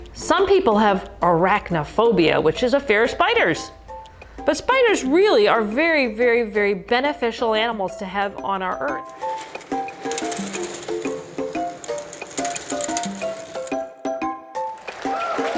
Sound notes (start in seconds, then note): 8.9 curtain closing, music; 14.5 audience clapping, music